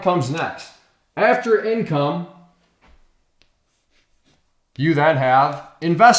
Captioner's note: chalk scraping on chalkboard